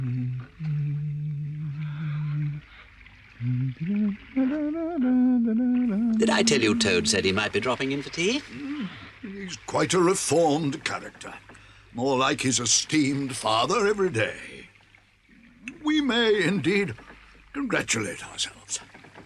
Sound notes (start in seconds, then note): 3.3 humming continues